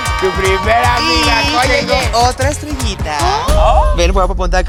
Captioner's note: very gay gasp